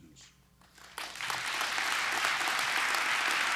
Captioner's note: applause